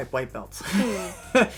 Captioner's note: laughter